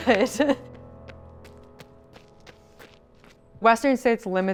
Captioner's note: footsteps